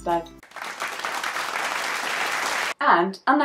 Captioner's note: clapping sounds